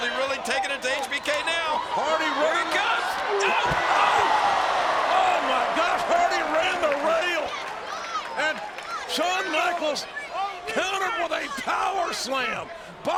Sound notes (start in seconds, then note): 3.6 bodies thud; 4.7 audience groans